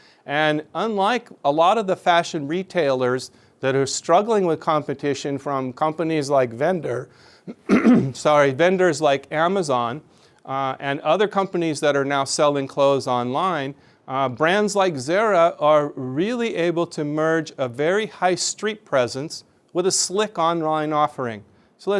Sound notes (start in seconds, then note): 7.4 clears throat